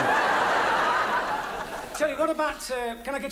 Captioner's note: audience laughs